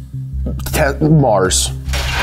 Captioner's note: stammers